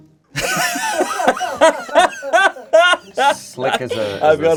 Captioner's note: everyone laughs